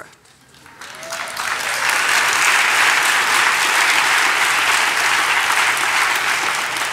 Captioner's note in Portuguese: Aplausos